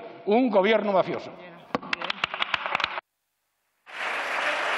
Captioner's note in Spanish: Aplausos